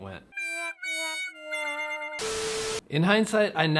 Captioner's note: beeping sound; sad music